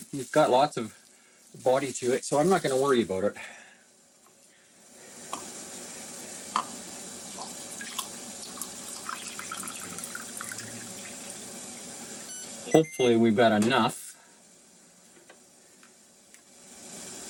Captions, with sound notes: You've got lots of body to it, so I'm not gonna worry about it. (mixer whirring) Hopefully we've got enough.